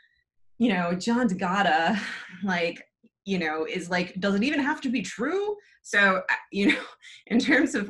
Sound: chuckles

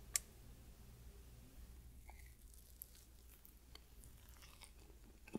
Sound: eating sound

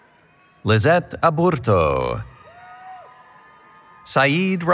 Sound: applause, Cheering

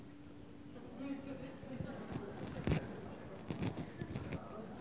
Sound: voiceover

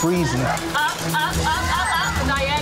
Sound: digital beeping; contestants shouting

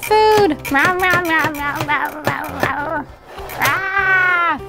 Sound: eating noises

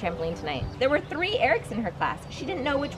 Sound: reading aloud

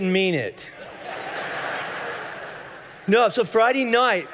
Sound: congregation laughing

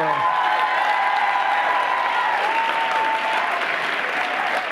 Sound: cheers and applause

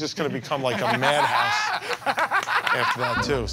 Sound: Murr and Sal laugh

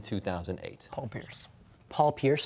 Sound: quietly

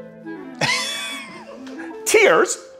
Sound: audience laughing

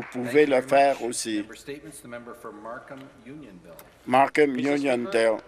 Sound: some Applause

